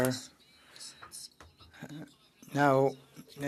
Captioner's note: speaking french